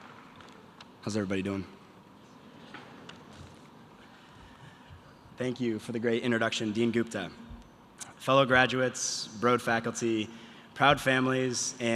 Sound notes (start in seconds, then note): none